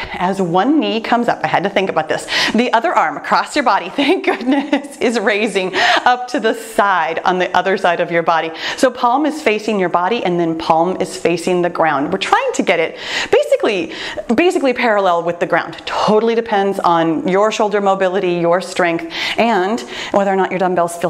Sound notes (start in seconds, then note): 3.9 laughs